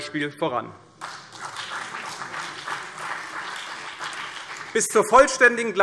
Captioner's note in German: Beifall CDU und vereinzelt BÜNDNIS 90/DIE GRÜNEN